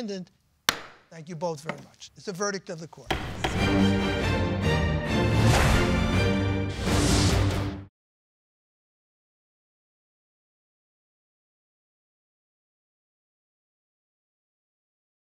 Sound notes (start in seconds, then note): 0.6 gavel strikes desk; 3.1 dramatic music